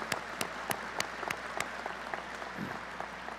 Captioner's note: applause